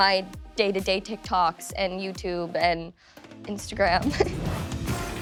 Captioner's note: upbeat music playing; laughs